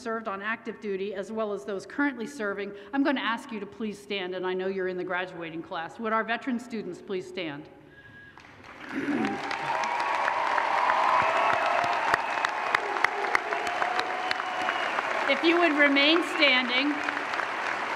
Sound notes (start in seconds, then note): 8.9 applause